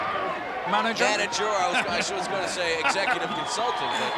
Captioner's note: laugh